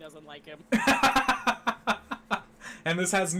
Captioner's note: laughing